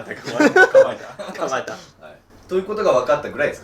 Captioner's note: laughing